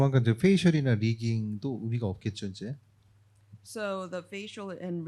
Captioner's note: speaking korean